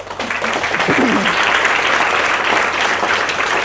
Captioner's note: applause